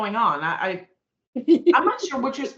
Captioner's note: laughing